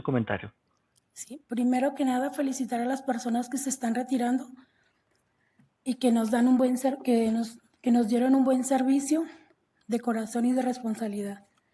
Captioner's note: speaking non-english language